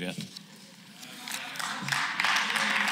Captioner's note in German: Beifall